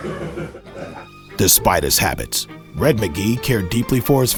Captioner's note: voiceover